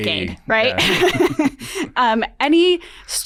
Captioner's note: laughs